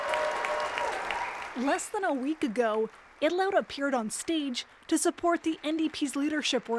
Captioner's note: applause